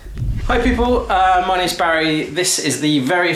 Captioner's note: time travel whooshes